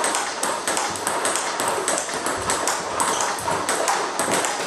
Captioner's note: ball ping pong hitting continues